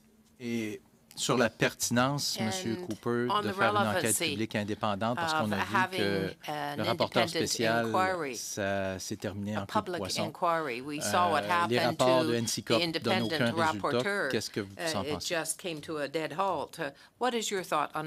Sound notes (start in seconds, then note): 6.0 speaking French